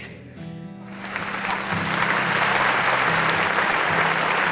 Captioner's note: audience clapping